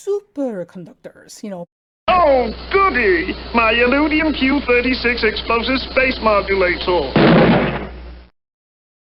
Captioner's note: bang